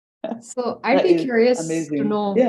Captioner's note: laughing